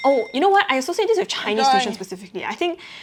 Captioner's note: Mandarin